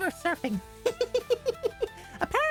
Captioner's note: laughter